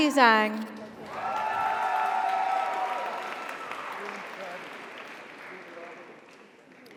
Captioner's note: audience cheers; audience applauds